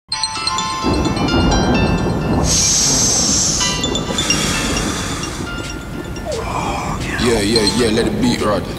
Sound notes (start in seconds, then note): 1.0 phone rings; 1.0 thunder rumbles; 2.2 man sighs